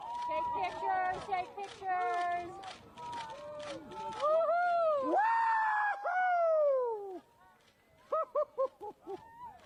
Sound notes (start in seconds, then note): 2.1 cameras clicking; 4.1 cheers